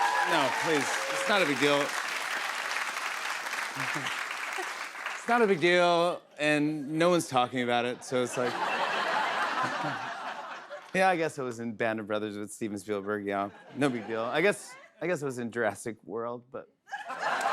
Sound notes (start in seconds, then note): 2.2 applause continues; 7.9 laughter